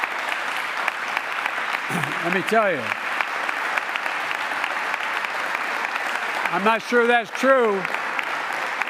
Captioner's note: applause